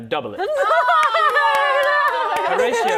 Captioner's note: cheering